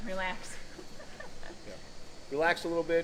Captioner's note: laughing